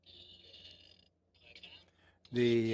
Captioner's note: speaking French